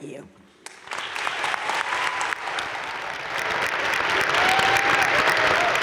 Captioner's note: crowd cheering and applauding